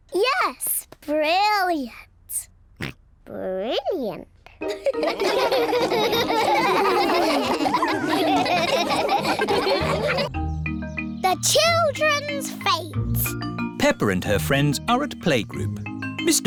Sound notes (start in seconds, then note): 2.8 snorts; 7.7 all laugh